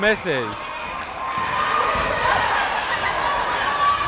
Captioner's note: yelling